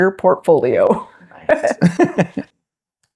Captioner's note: laughter